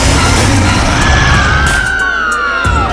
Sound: screaming

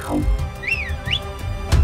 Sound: whistling

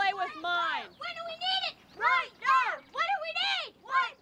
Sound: kids continue chanting

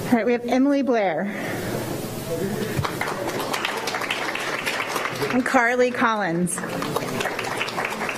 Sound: applause

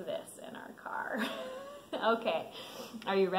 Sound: laughs

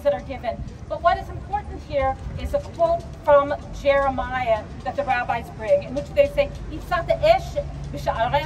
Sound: hebrew

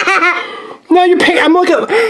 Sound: laughing

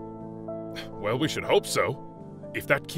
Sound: scoffs

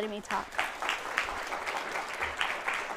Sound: applause

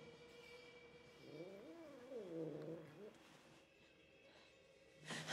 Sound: cat growling

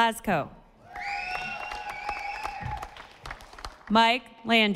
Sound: audience applauding

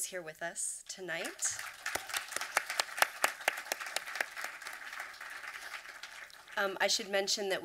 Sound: applause

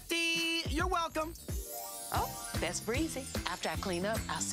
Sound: chimes

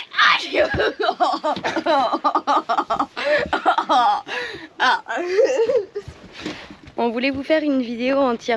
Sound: laughs

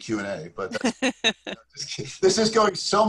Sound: laughs

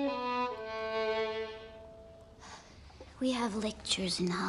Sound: sighs

